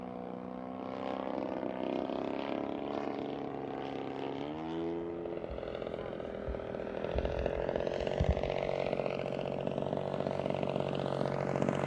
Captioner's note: engine propeller sounds